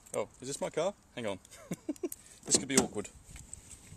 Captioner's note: laughs